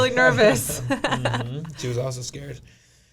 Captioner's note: laughing